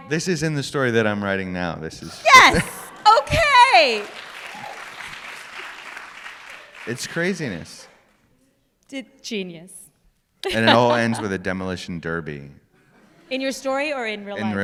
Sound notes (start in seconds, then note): 2.2 applause